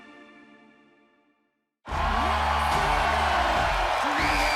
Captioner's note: cheers and applause